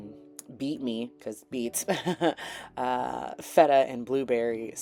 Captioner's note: dorky chuckling